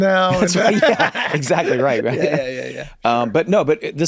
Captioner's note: group laughs